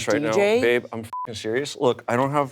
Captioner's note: beep